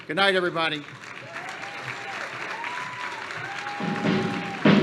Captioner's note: applause